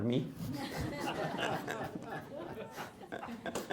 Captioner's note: laughter